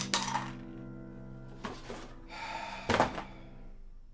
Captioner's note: exhales sharply